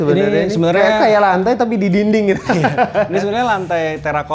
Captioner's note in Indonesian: tertawa